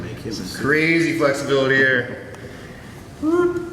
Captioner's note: chuckles